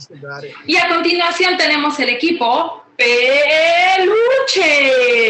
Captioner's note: woman speaking Spanish